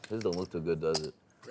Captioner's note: voiceover